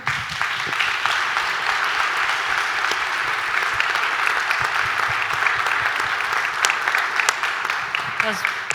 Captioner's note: claps